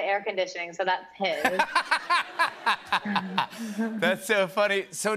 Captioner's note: laughter